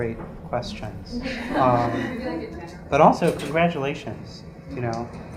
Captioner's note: laugh